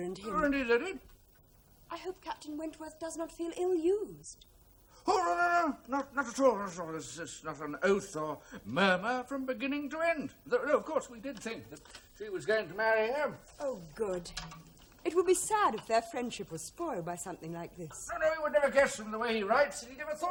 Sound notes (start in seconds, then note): none